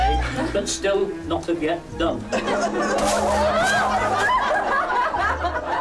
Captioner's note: laughter